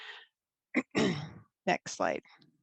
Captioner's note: clearing the throat